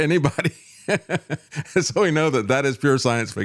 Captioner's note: laughs